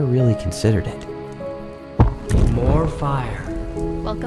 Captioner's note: logs thumping